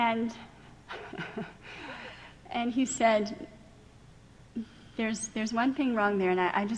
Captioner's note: laughing